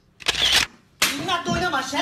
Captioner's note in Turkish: şaplak